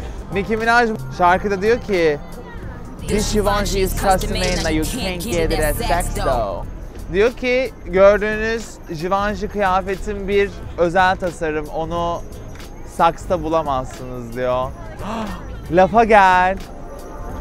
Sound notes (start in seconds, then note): 15.0 gasps